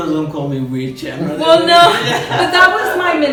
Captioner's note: laughs